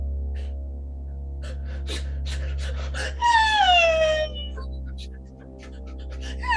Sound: wails

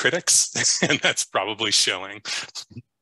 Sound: chuckles

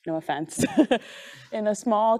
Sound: chuckling

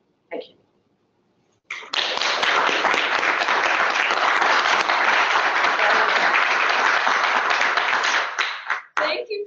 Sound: applause

